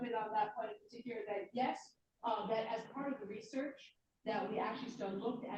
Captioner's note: off mic